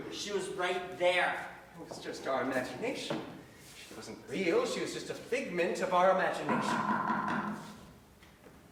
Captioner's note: knock, knock, knock